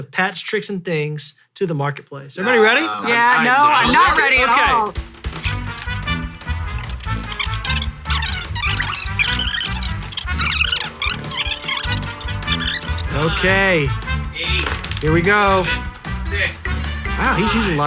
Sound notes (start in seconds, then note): 6.7 fast forward softly screeching